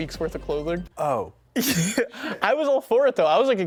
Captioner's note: chuckles